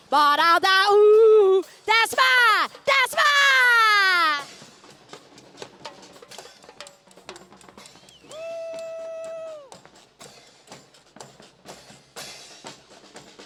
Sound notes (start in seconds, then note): 0.0 festive percussion music; 8.2 audience cheering